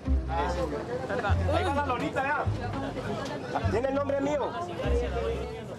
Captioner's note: Spanish spoken audio